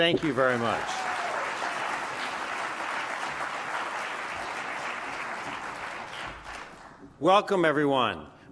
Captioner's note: applause